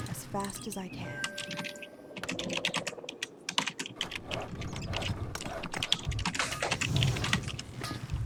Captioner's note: typing sounds